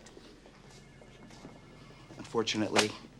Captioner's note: phone rings